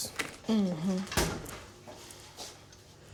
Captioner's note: closing fridge door